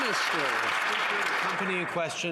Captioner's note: some Applause